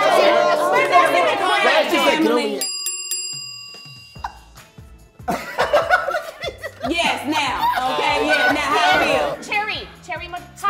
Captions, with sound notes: - Oh scorpion, scorpion! - Man, that's in the crab family. (bell dings) (they laugh) - Yes now, okay yes now, how it feel? - Cherry, cherry emoji?